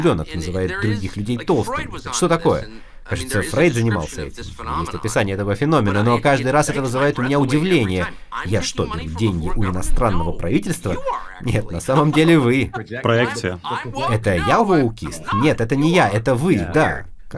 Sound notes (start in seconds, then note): 11.7 laughing